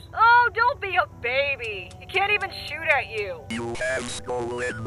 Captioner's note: trigger Clicking